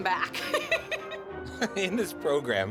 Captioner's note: laughing